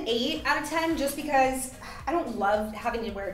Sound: sighing

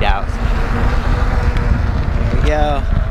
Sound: motor whirring

